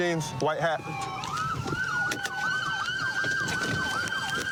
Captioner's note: siren wailing